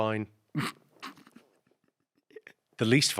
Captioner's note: Ahir chuckles